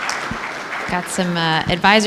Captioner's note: applause